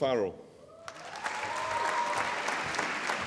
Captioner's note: applause